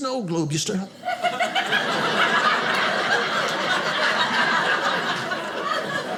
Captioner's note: audience laughing